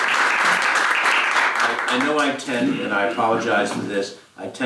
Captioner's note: applause